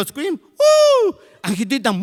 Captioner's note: screams